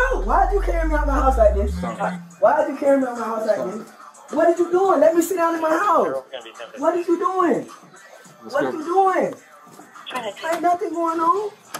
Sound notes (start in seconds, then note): 10.0 radio chatter